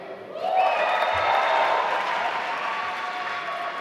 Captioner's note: applause